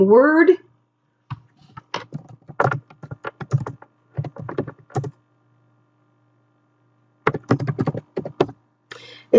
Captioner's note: typing